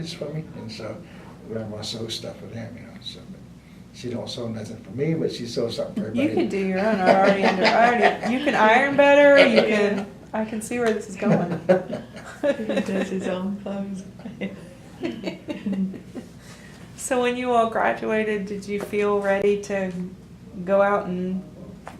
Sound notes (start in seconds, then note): 6.0 laughs; 11.2 laughter